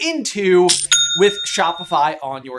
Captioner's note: cha-ching!